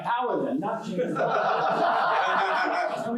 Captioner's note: laughter